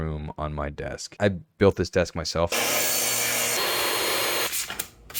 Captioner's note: saw whirring